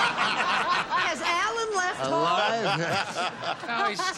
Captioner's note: laughter